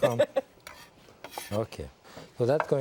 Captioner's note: laughing